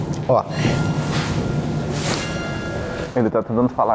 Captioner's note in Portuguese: som de sinos